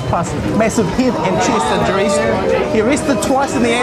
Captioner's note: moaning